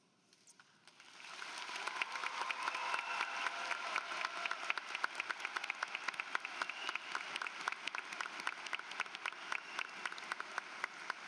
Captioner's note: applause